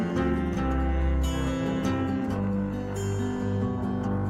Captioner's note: melodic guitar music; melodic humming